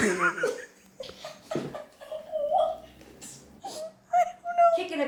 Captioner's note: all laughing